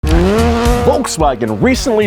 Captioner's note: car engine revving